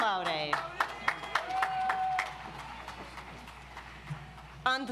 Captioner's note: audience applauds